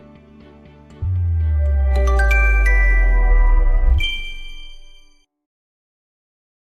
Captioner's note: chime